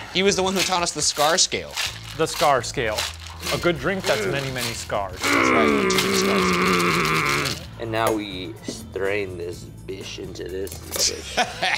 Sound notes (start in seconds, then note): 5.2 grunts; 11.1 laugh